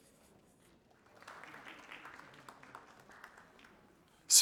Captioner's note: audience applauding